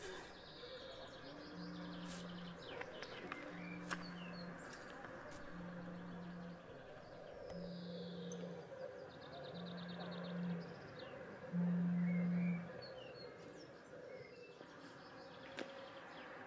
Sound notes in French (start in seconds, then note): 1.7 vibreur